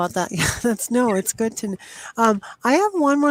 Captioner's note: chuckles